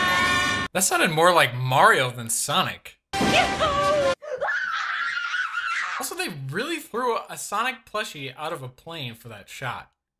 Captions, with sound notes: That sounded more like Mario than Sonic. Yahoo! [screaming] Also, they really threw a Sonic plushie out of a plane for that shot.